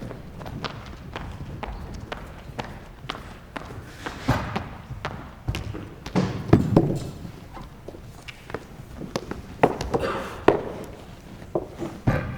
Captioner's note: footsteps entering